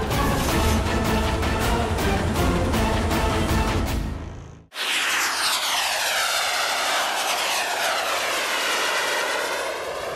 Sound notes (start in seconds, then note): 0.0 upbeat music plays; 4.7 whooshing sound